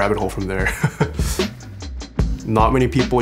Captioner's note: laugh